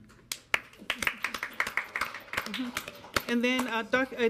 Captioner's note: board members clapping